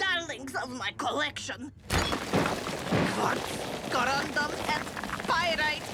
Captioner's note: rocks crumble